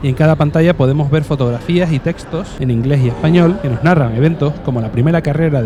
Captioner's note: in English and Spanish